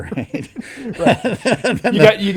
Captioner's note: laughing